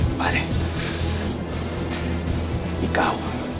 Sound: breathes heavily

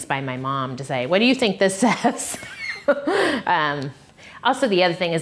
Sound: laughs

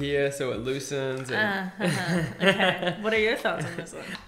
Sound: man laughing

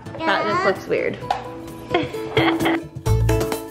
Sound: laughs; bouncy, playful music

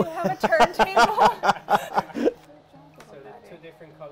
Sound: laughs

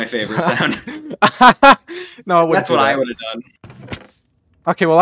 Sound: laughs

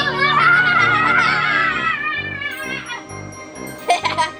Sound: laughs

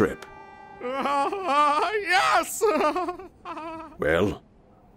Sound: giggling

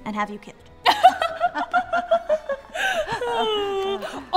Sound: both laugh

